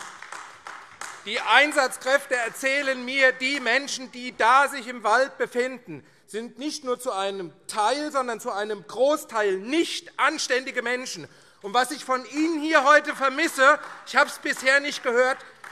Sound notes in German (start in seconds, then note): 12.7 Beifall AfD